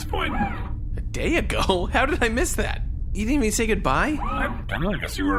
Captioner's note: laughing